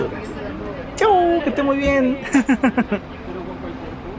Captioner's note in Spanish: risas